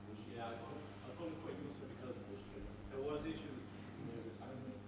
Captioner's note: man speaks softly